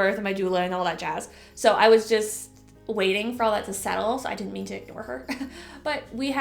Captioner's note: chuckle